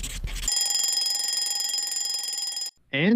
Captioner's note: ringing